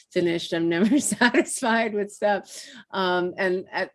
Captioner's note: laughing